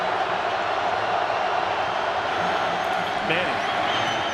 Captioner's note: crowd boos